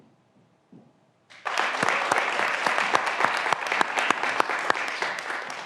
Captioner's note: graduands applauding